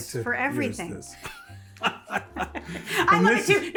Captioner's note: both laughing